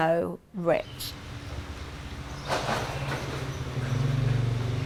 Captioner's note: ambient rural noise